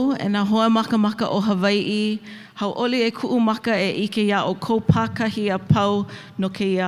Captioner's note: continues speaking in Hawaiian; speaks in Hawaiian